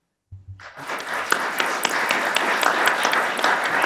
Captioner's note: applause